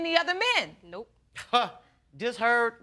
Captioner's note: scoffing